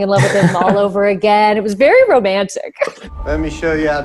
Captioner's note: laughs